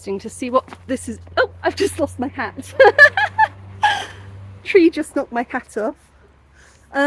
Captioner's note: laughing